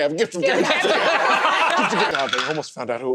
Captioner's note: laughter